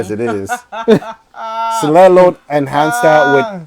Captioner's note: laughing